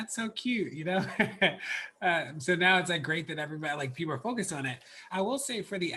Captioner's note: laughs